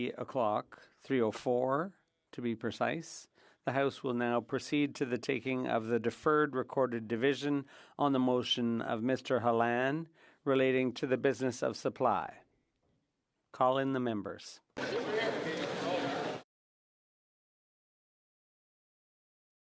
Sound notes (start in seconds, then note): 1.6 speaking French